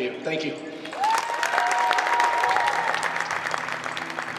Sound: applause

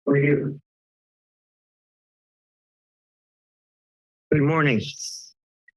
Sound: silence

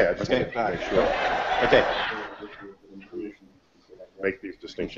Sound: audience laughter

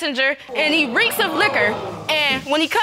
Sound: audience exclaims

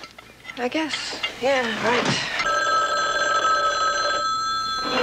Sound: telephone rings

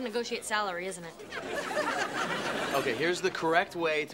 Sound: audience laughing

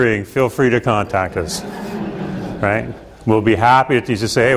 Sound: students laugh

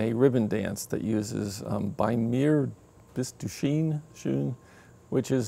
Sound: speaking foreign language

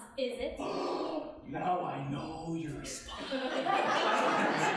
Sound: gasping; audience laughing

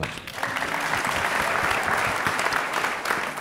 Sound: applause

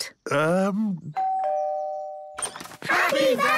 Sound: doorbell rings; crowd

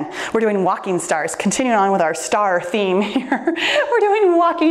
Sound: chuckles

